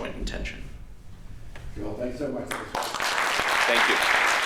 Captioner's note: applause